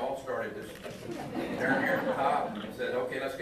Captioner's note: audience laughing